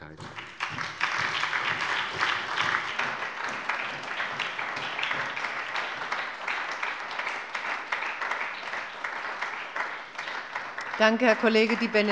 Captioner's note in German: Anhaltender Beifall von der SPD und der LINKEN